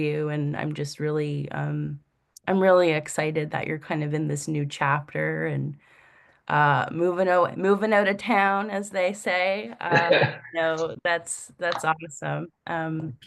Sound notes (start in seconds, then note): 9.9 laughs